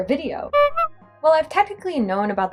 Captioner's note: clown Horn